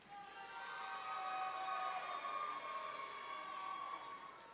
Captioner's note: audience cheering